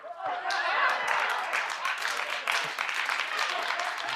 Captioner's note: crowd applauding